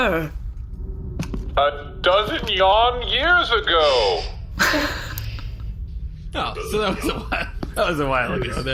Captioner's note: laughing